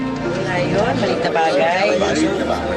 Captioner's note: overlapping chatter